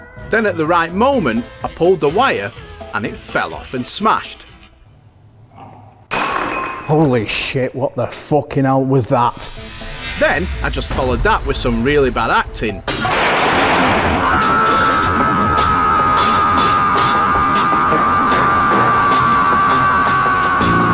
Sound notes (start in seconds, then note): 6.0 smashing Sound; 12.6 sound FX